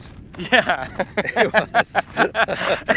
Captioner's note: laughs